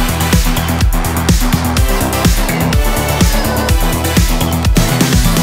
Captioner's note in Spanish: gritando desde adentro